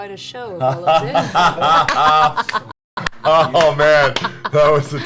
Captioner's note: all laugh